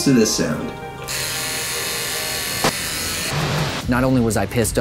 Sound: trimmers buzzing

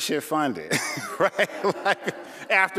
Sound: laughing

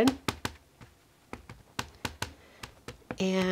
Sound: ink pad tapping

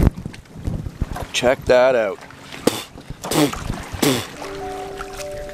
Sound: spits

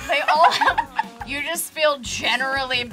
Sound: group laughs

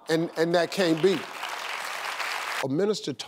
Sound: audience applauds

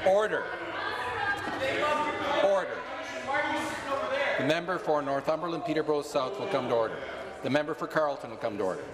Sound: conversation din

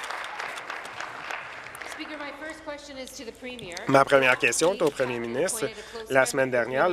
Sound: applause

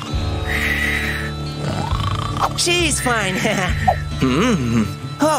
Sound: snoring

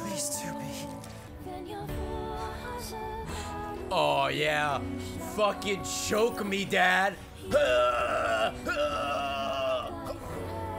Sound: chokes

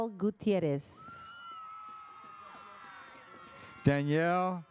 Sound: audience cheers

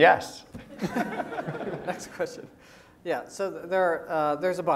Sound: laugh

